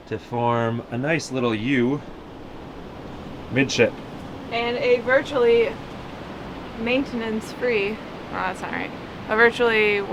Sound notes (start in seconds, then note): none